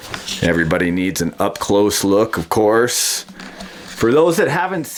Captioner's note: voiceover